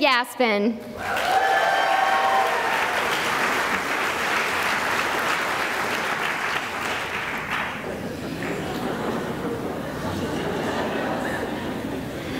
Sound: cheering and applause

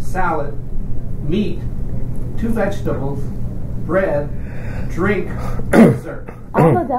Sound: coughs

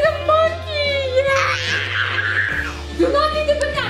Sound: growling

